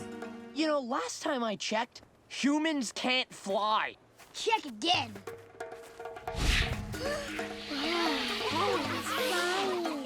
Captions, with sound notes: You know, last time I checked, humans can't fly! Check again! [gasping] He's flying!